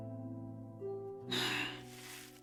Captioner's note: Asha sighs